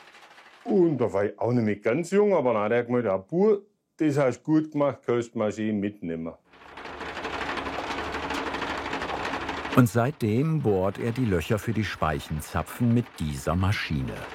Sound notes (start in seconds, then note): 6.9 fast rattling